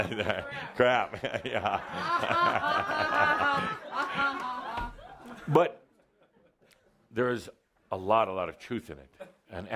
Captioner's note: laughter from Adamus and audience